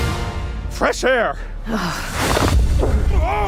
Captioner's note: disgusted sigh